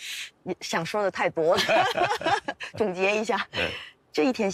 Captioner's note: laughs